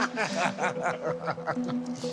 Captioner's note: laughing